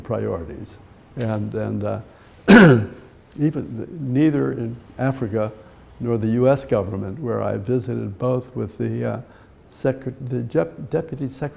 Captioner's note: clears throat